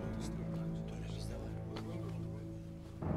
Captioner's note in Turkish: Konuşma sesleri